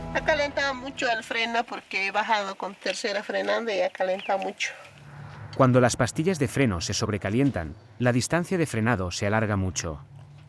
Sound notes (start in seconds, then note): 0.7 speaking in foreign language